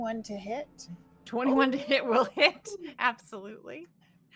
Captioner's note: laughing